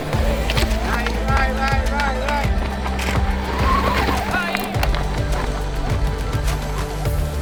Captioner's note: crowd noise